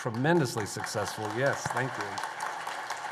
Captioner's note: applause